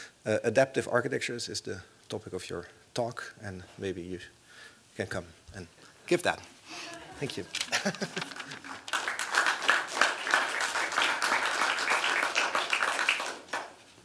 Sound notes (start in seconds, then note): 7.5 laughter; 9.1 applause